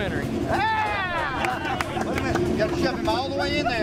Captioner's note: cheering, laughing, and clapping